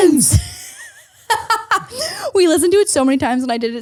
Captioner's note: laughs